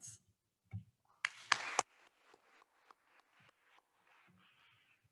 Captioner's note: attendees applauding